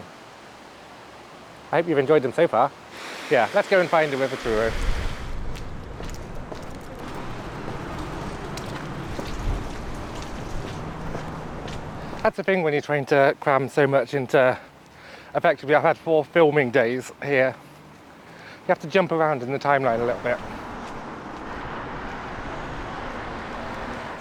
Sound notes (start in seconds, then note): 4.8 footsteps